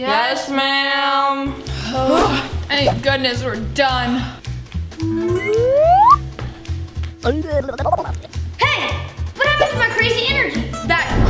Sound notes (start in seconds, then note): 5.0 whistle; 7.3 babbling